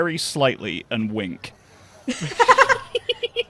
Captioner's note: laughs; laughter